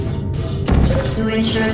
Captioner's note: gun blasting